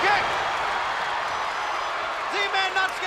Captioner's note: spectators cheering